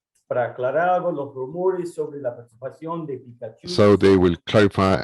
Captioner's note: speaking in foreign language